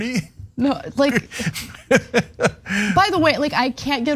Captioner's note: laugh